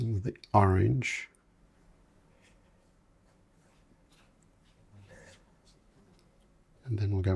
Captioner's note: silence